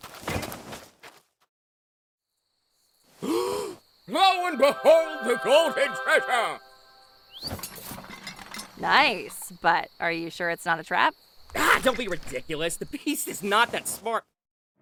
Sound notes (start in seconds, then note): 3.2 gasp